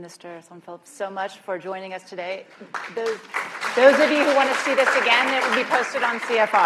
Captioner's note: applause